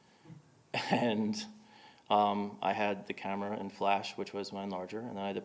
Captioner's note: chuckling